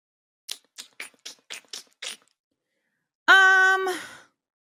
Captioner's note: sucking teeth